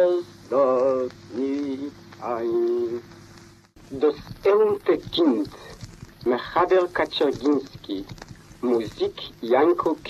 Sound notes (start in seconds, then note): 4.4 speaking in foreign language